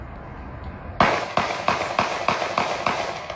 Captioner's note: multiple gun shots fire